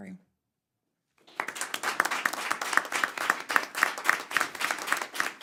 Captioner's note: applause